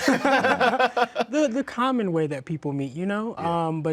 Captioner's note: laughing